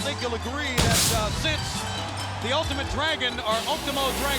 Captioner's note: fireworks booming